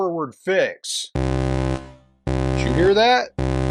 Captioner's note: alert